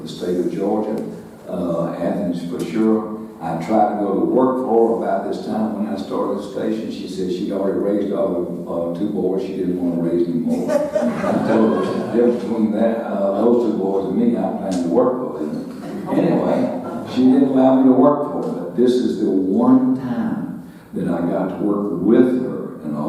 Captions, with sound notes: for the state of Georgia, Athens for sure. I tried to go to work for her about this time when I started the station. She said she'd already raised all the two boys. She didn't wanna raise more. (audience laughing) Told between that, those two boys and me I planned to work for her, anyway, she didn't allow me to work for her. But this is the one time that I got to work with her